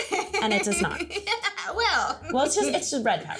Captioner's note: giggling